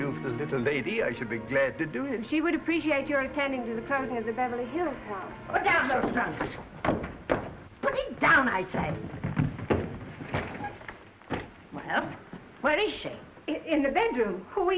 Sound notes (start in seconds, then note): 9.2 trunks thudding